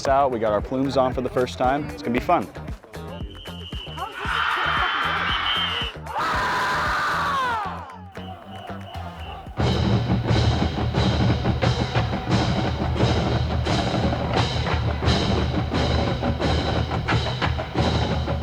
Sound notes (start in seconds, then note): 3.9 distant yelling; 6.0 closer yelling